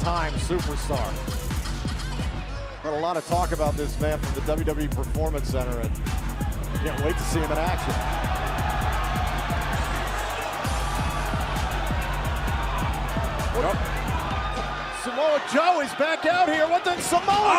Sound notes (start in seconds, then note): 8.7 crowd cheering